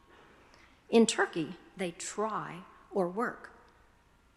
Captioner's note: speaking foreign language